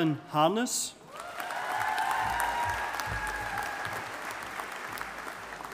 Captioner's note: audience applauding